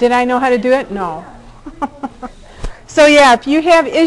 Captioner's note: chuckling